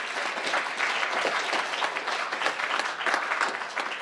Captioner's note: crowd applauding